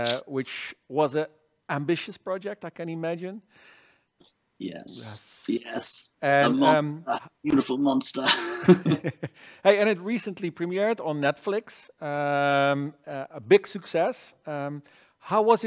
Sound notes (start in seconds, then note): 8.3 laughter